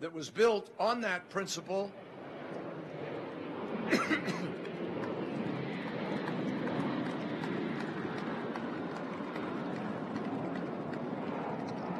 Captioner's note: sound of plane taking off; applause